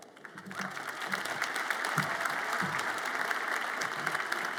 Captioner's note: audience applauds